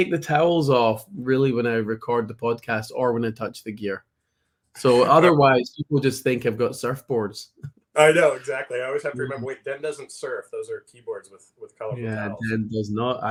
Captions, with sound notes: No, I take the towels off, really, when I record the podcast, or when I touch the gear ...so otherwise, people just think I've got surfboards. (laughs) I know, exactly. I always have to remember, "Wait, Den doesn't surf. Those are keyboards with ... colorful towels." Yeah, Den does not...